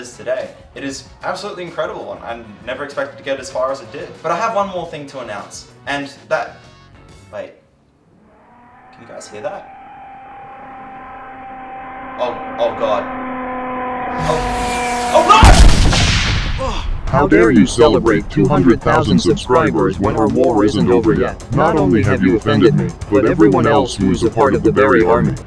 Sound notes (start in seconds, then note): 14.1 explosion